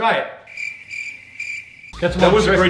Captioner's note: crickets chirping